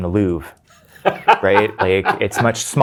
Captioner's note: guy laughing